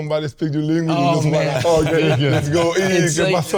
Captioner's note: all laughing